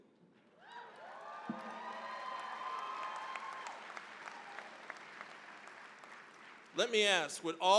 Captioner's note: cheering, applause